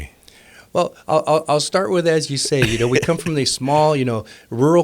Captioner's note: laughing